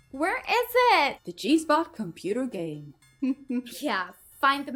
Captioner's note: chuckles